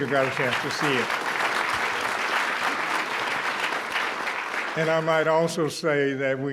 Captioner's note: applause